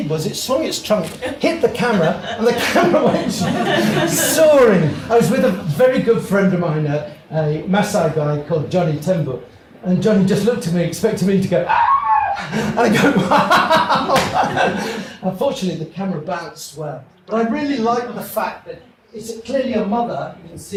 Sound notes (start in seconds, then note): 11.7 screeches; 12.0 laughs